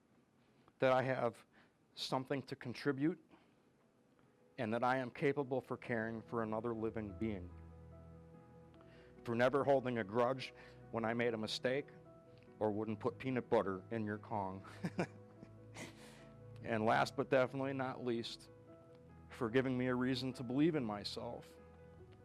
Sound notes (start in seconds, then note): 14.6 chuckles